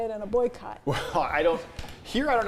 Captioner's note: chuckles